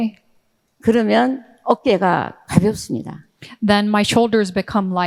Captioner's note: speaking in foreign language